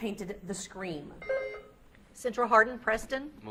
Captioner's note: beep buzzing